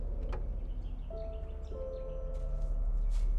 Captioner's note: bird chirp